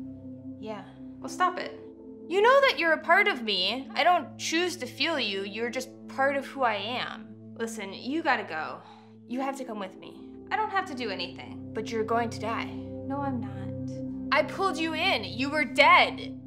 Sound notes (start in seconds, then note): none